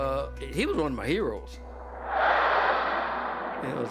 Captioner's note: plane roaring